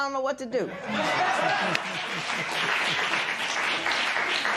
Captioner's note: applause